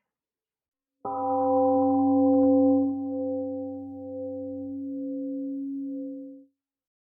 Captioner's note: temple gong rings and fades